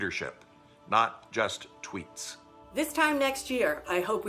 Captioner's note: speaking spanish